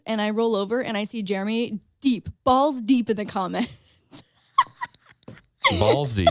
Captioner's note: laughs